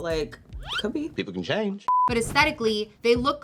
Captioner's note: beeping